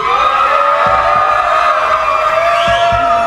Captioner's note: cheering